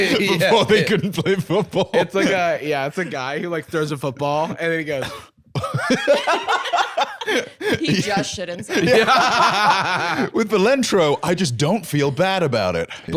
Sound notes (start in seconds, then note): 5.5 laughing; 9.4 both laughing